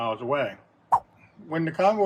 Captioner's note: swipe sound